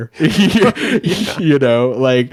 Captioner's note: hosts laughing